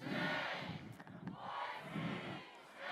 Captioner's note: crowd